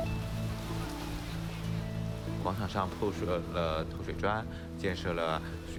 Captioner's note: speaking Chinese